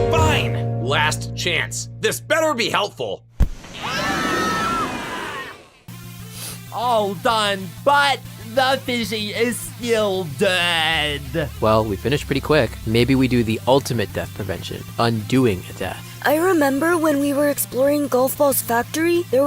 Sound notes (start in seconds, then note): 3.7 Just Not screams; 6.3 sniffs